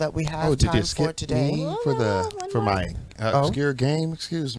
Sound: both chatter

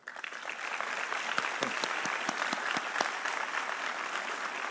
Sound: audience applauding

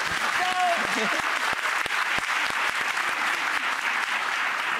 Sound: audience clapping

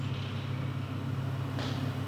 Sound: engine whirring

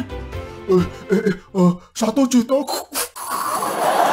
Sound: laugh

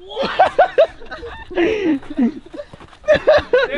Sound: laughing

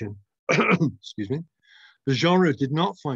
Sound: coughs

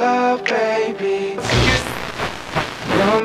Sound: radio buzzing

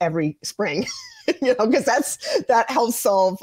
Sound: laughs

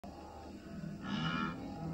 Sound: animals sounds

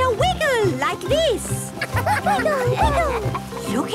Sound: laughter

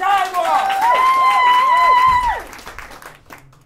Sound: applause

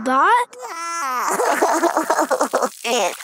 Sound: cries

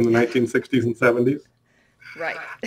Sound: laughs

